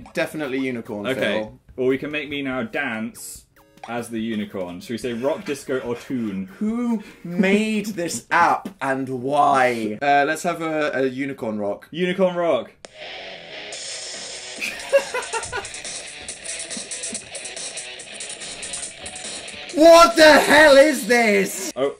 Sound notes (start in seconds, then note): 12.5 rock music; 14.6 laughter; 16.5 rock music